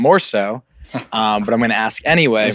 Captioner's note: laughs